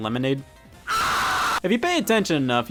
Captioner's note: screams